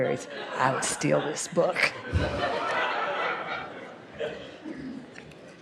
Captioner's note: laughter